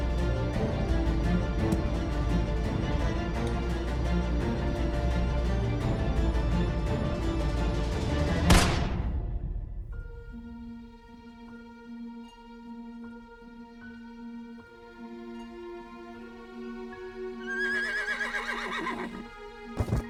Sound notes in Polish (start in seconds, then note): 8.5 wystrzał. muzyka przechodzi w pojedyczne, powolne dźwięki fortepianu; 17.5 głośne rżenie konia, odgłos głuchego uderzenia